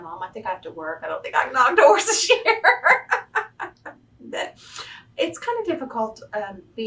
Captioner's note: laughs